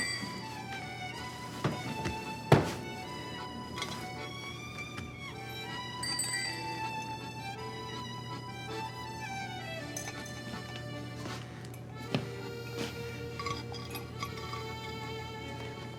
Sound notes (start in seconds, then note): 2.5 thud; 5.8 bell